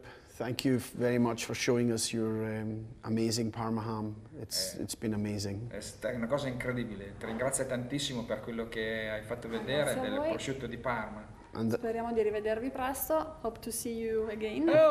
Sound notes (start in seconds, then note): 5.9 speaking Italian